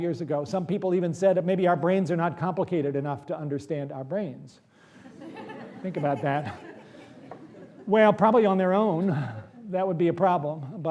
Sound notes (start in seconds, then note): 5.0 laughter